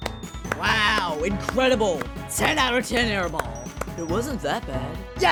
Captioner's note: clapping